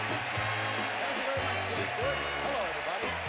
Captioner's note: audience applauding